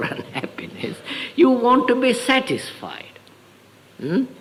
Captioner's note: laughs